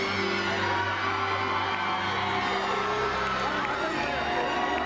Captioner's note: crowd cheering